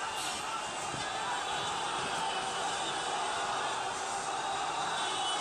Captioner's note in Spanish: cánticos y gritos